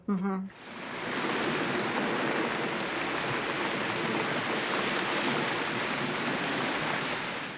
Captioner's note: sound of rain